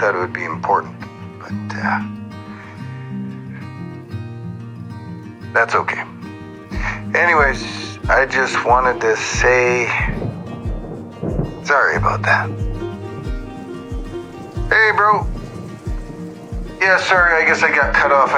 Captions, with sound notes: I thought it would be important. But, uh, that's okay. Anyways, I just wanted to say sorry about that. (thunder rumbles) (rain pattering) Hey, bro. Yeah, sorry, I guess I got cut off.